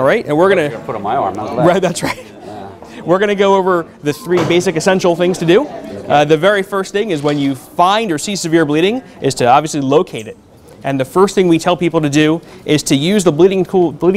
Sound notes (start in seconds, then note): 1.6 laughter